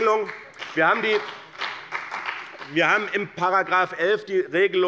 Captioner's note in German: Beifall bei dem BÜNDNIS 90/DIE GRÜNEN und der CDU